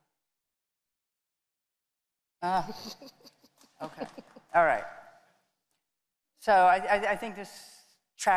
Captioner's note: laughter